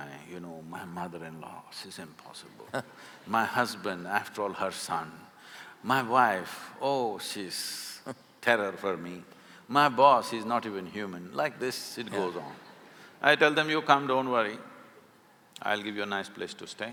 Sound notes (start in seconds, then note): 2.6 Karan Johar laughs; 6.7 Karan Johar laughs; 12.0 few laugh